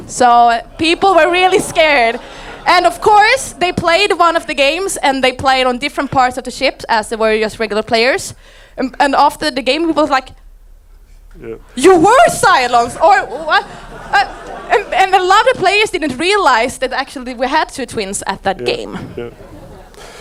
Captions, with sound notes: So people were really scared. And of course they played one of the games and they played on different parts of the ship as they were just regular players. And after the game he was like, "You were Cylons" (audience laughing) And a lot of players didn't realize that actually we had two twins at that game.